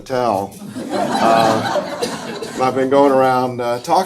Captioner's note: audience laughing